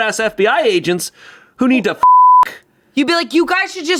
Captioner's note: beep